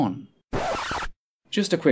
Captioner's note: record Scratch